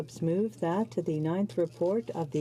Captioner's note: speaking French